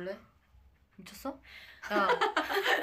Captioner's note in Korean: 하하핳ㅋ